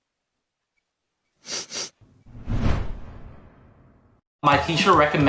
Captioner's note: sniffs